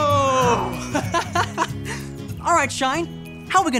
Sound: Marty laughing

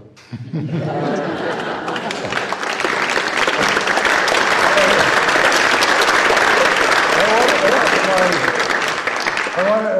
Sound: applause

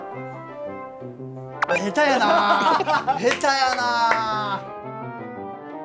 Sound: haha

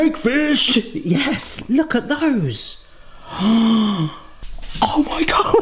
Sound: gasps

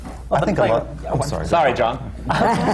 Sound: laughter

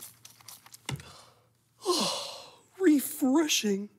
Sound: sighs

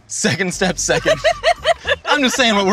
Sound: laughing

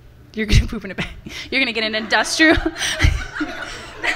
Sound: laughs; laughter from the audience

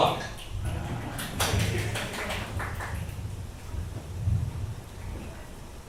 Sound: select audience members clap

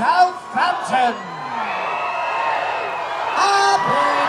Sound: cheering

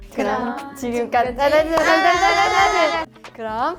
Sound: aaaah!

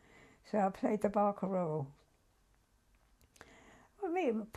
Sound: pauses for 3 seconds

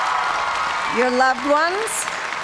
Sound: cheers and applause

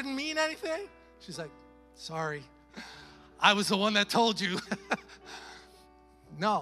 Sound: chuckles

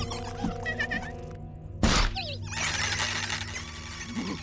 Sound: shrieks

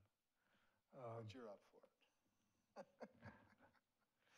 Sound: laughs

